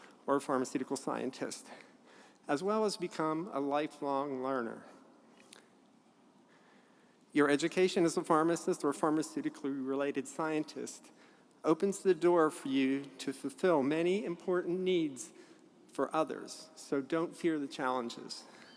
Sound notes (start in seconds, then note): none